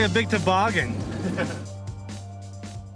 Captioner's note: chuckling